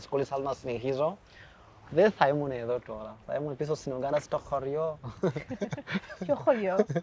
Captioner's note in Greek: γέλια